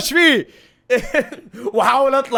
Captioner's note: giggles